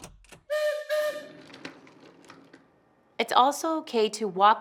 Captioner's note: train whistle blowing